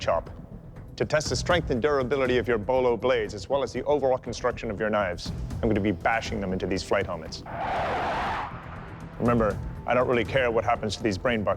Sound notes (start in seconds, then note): 7.4 fighter planes whoosh